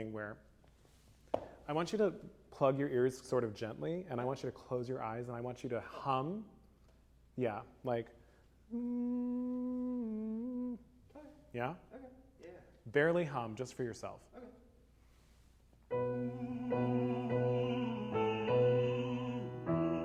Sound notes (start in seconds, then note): 11.2 hums; 15.9 humming